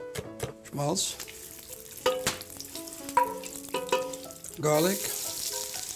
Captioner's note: sizzling